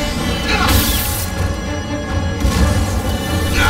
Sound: blasting; wincing

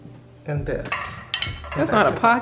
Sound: mellow music; plates clanking

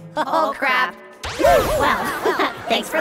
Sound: magic effect

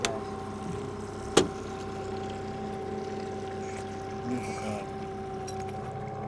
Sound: trolling motor humming

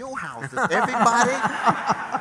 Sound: laughter

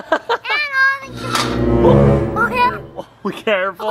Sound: metal scraping, ominous music

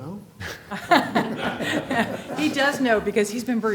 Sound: laughter

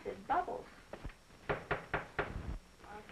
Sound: knock on the door

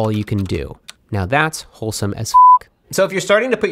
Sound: beep

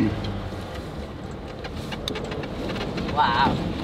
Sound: car engine rumbling

